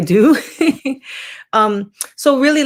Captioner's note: chuckling